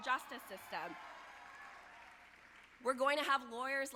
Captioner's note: audience applauding